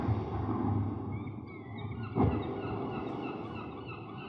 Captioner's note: seagulls cry